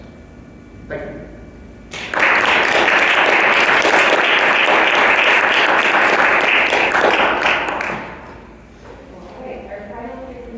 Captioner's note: background chatter